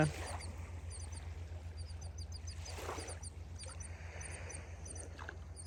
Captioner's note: bird continues chirping